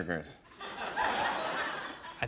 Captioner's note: laughter